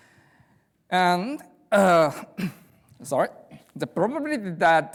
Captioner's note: clears throat